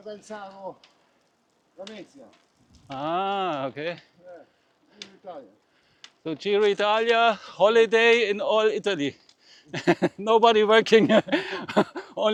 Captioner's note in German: gelächter